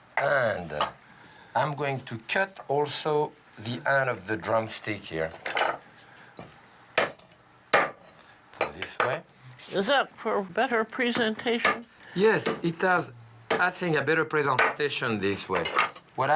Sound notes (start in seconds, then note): 7.7 chopping